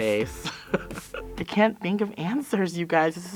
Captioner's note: laughter